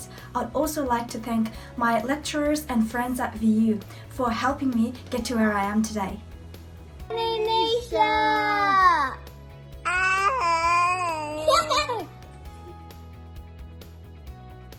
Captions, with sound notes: I'd also like to thank my lecturers and friends at VU for helping me get to where I am today. - Neisha! (baby mumbling) (baby laughs) (gentle music)